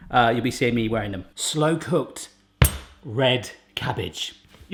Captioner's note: thuds